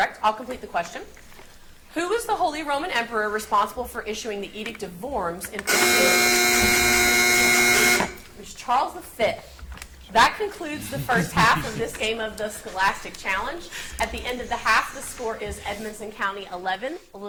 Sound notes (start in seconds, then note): 5.6 buzzer buzzes